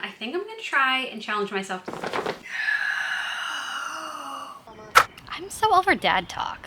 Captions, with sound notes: I think I'm gonna try and challenge myself to... (exhales) I'm so over dad talk.